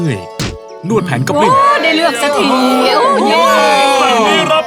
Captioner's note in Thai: โห่ร้องดีใจ